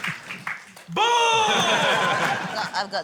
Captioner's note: laughter